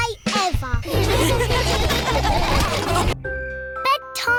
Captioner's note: all laughing